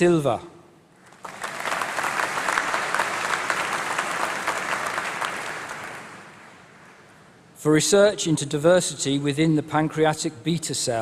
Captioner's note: applause